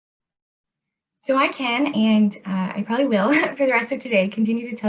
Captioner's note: chuckles